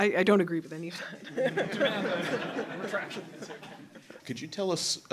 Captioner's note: laughter